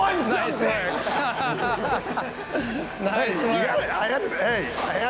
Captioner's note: laughter